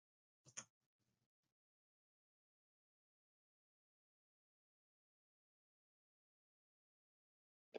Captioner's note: pause